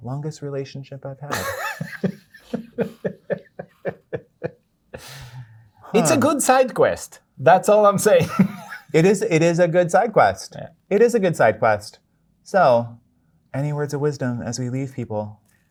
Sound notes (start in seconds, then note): 1.3 guy laughing